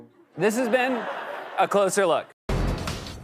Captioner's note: laughter